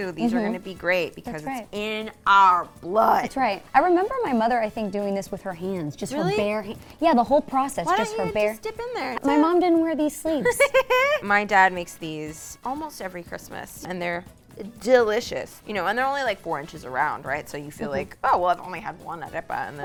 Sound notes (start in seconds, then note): 10.5 laughs